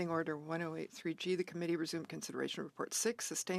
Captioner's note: speaking French